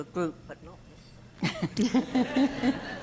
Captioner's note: faintly speaking